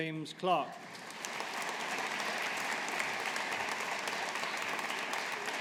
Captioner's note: audience applauding